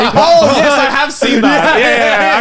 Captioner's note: laughing